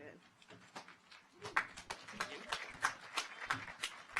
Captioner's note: audience applauds